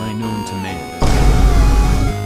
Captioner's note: more vinebooms